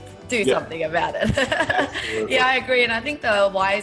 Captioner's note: laughing